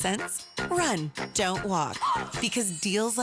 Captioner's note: gasp